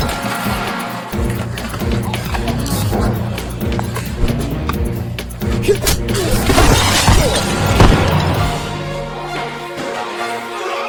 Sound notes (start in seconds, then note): 2.7 bones crunching; 5.8 glass shattering; 8.7 suspenseful music